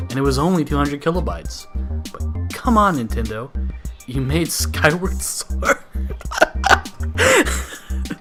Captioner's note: laughter